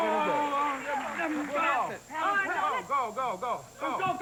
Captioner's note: all shouting